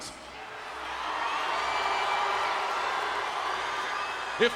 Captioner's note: crowd cheering